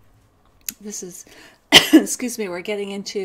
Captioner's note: coughs